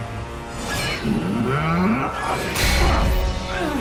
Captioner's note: groaning; yelling